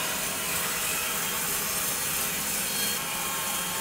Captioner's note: machine sawing